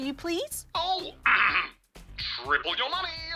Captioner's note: clears throat